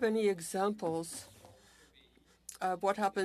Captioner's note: speaking French